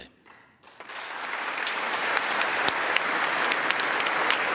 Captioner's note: congress applauding